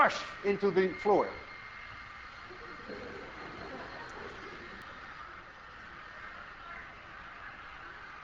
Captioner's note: class laughs